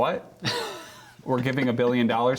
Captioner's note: laughter